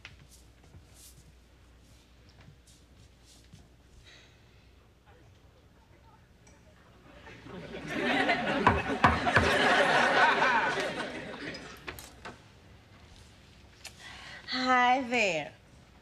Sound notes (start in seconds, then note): 3.7 sighs